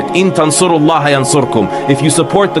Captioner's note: speaking arbaic